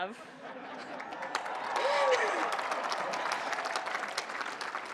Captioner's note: applause